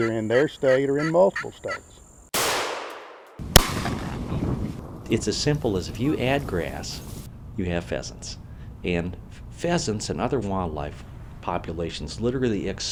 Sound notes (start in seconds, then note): 2.3 rifle shots